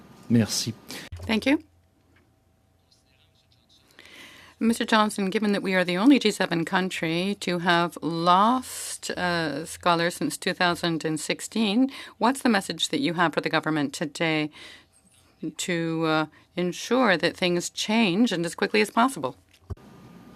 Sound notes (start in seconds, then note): 4.5 speaking French